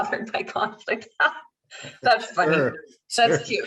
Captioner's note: laughs